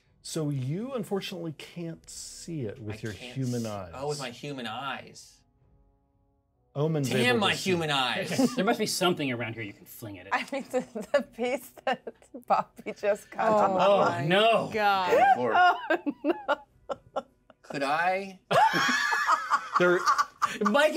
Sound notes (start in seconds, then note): 8.2 laughs; 11.7 chuckles; 15.1 laughs; 18.5 laughs